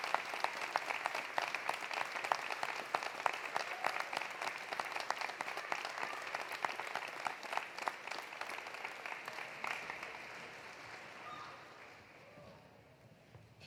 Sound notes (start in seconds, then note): 2.9 applause continues; 2.9 cheering continues